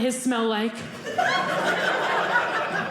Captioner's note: audience laughing